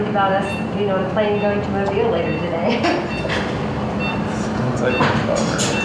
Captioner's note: laughs